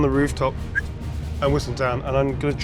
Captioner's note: whistles